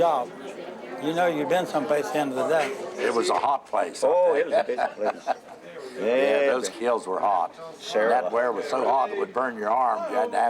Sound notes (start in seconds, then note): 4.4 laughs